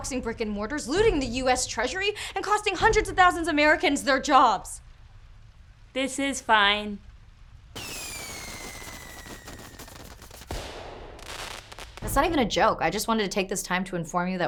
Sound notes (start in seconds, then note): 7.7 firework explosion booming